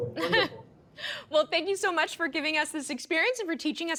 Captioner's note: laughing